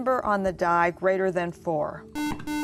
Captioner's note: beeping